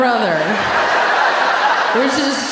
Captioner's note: audience laughing